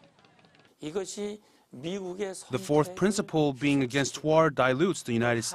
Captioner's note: Korean